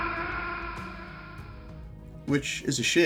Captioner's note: scream